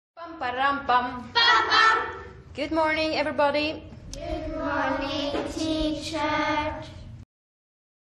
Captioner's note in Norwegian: Læreren hilser på elevene på engelsk